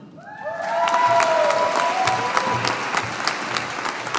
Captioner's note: audience applauding